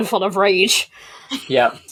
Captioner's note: laughs